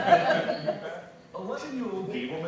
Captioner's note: laughter